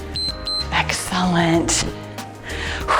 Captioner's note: timer beeps